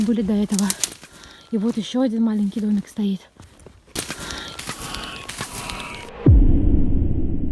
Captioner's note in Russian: Вой или крик???